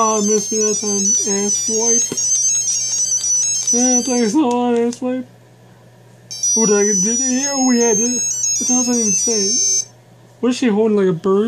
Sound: laughs

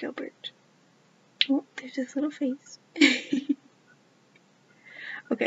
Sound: laughs

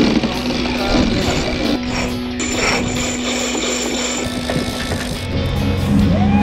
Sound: clanking; rope whizzing; screaming

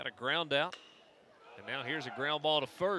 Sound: ball hitting bat

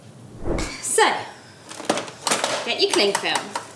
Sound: screen wipe whooshes

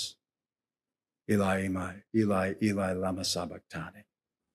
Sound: non-english speech

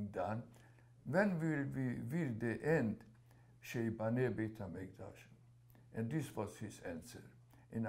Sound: hebrew

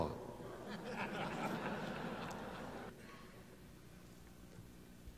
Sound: laugh

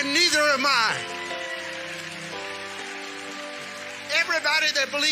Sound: congregation cheering and clapping

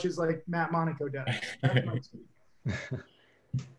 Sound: all chuckles

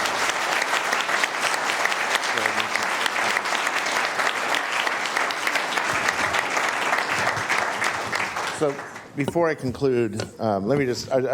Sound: applause

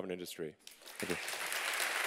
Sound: applause

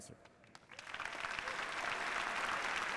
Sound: applause

